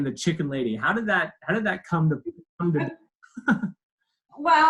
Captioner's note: laughs